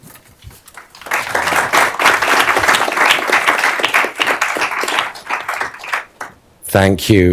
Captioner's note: applause